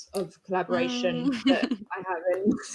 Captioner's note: laughs